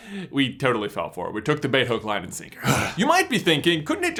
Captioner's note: grunts